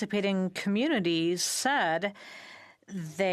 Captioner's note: speaking in French